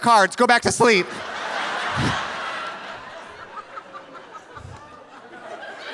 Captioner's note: audience laughing